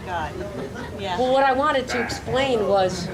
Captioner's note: audience laughing